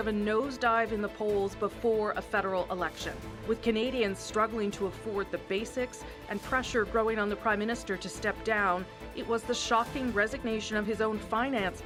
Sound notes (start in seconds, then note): none